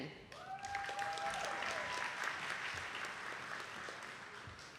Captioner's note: attendees clapping